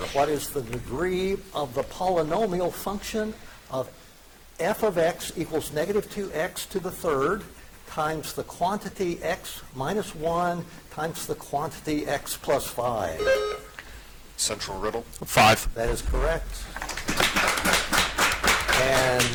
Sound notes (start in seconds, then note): 13.2 buzzer chiming; 16.6 audience applauding